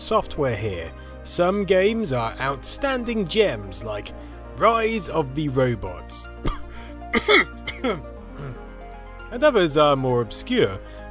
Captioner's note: cough